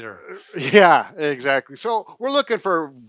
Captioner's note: chuckles